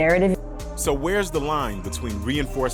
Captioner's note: voiceover